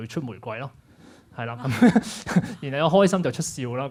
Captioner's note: laughs